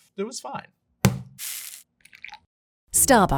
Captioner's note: bag thudding and coffee pouring